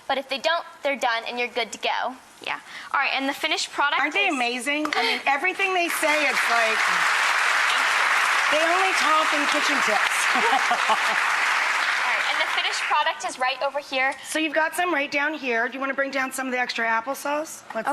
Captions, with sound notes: but if they don't, they're done and you're good to go. Yeah, alright and the finished product. Aren't they amazing? I mean everything they say is like, (audience clapping) They only talk in kitchen tips. (laughing) All right and the finished product is right over here. So you've got some, right down here. Do you want to bring down some of the extra applesauce?